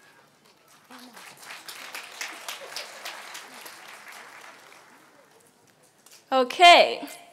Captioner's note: applause